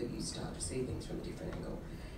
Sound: none

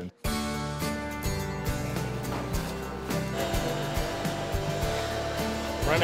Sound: upbeat strumming music; loud vacuuming

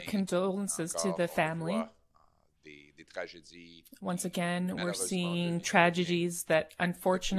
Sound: speaking French

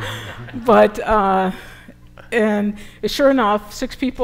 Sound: laughter

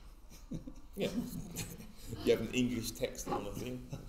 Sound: laughs

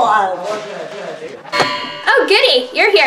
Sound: bong

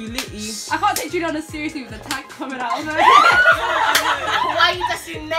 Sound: laughter

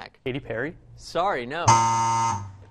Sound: buzz; buzzer plays

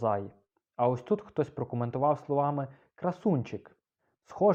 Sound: in Ukrainian; in Ukrainian

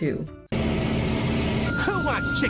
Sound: car engine revving

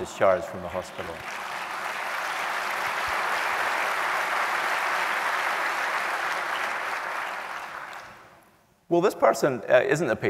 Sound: applause

